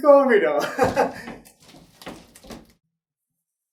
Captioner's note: giggling nervously; crashing noise